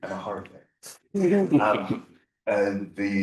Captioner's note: panelists chuckling